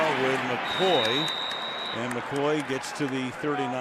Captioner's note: whistles